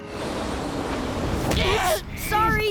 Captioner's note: groaning